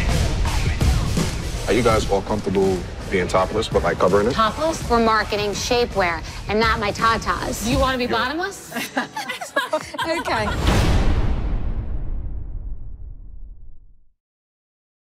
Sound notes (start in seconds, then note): 8.6 laughter; 10.4 music concludes